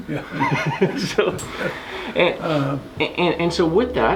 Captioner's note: laughing